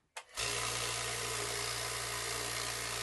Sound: tumbler buzzing

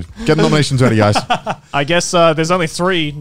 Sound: laughing

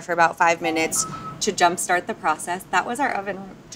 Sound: notification sound

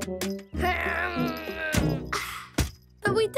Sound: groaning

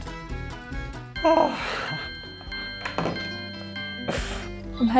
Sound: bell ringing

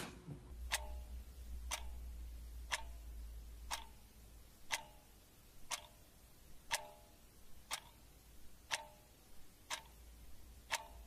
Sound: clock ticking

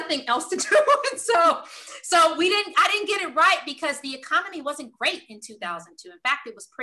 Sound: laugh

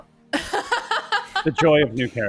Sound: laughing

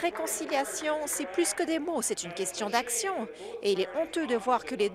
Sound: applause

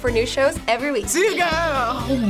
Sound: ominous laughter

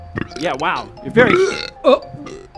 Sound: burp

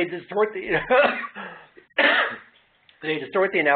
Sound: coughing

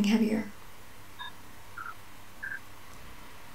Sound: beeping

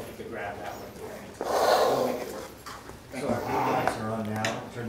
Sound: heavy breathing

